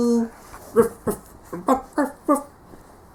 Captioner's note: ruff ruff; ruff ruff ruff